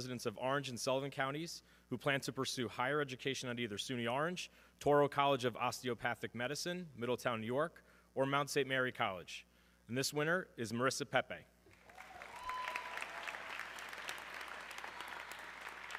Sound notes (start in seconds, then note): 11.8 audience cheering